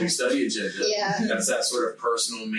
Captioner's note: group chattering